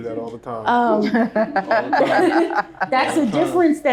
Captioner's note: group laughing